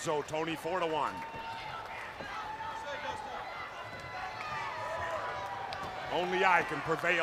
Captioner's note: crowd cheering